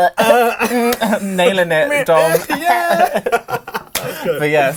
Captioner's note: laughs